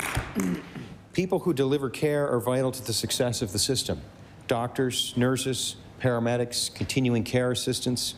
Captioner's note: applause